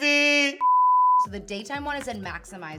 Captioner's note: beep